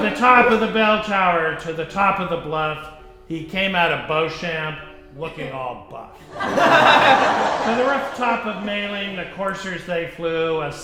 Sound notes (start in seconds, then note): 6.2 audience laughing